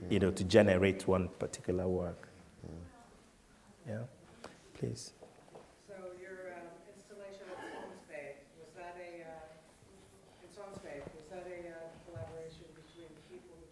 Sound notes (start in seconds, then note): 6.2 voiceover; 7.4 coughing